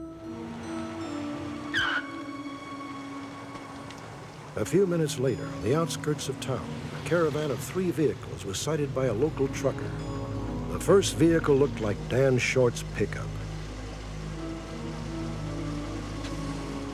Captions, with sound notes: [car screeching] A few minutes later, on the outskirts of town, a caravan of three vehicles was cited by a local trucker. The first vehicle looked like Dan Short's pickup.